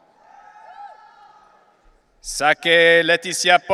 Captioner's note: audience cheering